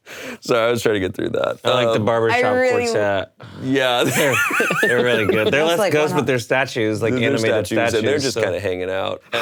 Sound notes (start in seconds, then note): 4.1 laughs